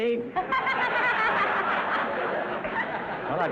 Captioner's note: audience laughter